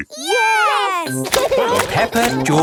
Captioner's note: laughing